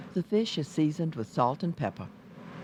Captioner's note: voiceover